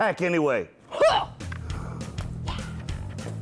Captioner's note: grunting